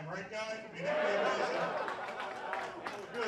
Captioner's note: applause